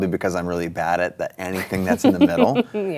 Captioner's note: chuckles